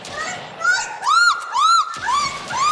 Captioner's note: speaking Norwegian; screaming; gunshots